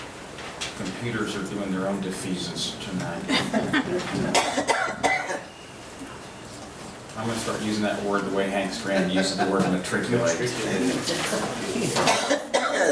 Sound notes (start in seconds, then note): 11.1 laughs